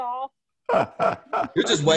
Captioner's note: laughing